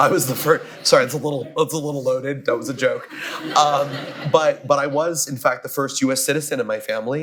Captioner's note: laughter; laughter